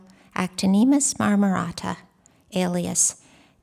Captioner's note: non-english speech